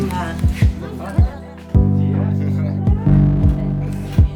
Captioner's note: people chatting